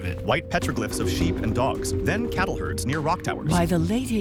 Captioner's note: hooves shuffle dirt